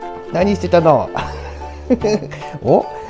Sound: laughs

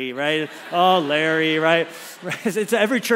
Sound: congregation laughs

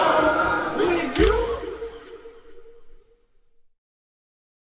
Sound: camera clicks

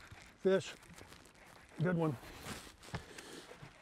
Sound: reel cranking

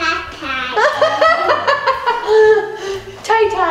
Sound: laughing

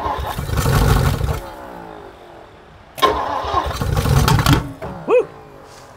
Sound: engine struggling to start

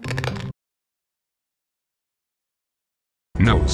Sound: awkward pause

